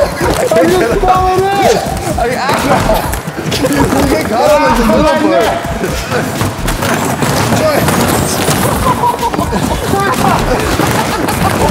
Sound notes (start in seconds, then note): 0.0 laughing; 2.0 more laughing and struggling; 6.4 cardboard boxes breaking